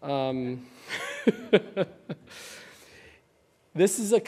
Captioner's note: laughing